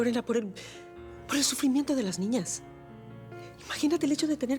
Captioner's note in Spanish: suspiros